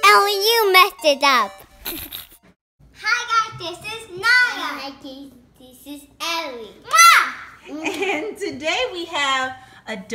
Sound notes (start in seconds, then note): 1.8 laughs; 8.4 voiceover